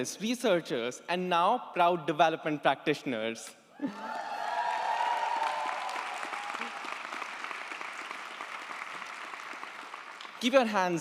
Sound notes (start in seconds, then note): 3.9 audience applauds & cheers